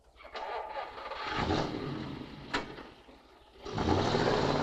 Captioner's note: car engine rumbling